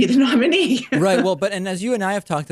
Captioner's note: laughs